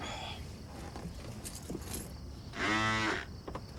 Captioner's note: Larry sighs; keys jingle; phone vibrates